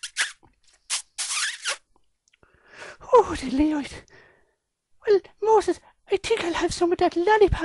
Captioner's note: sound of kiss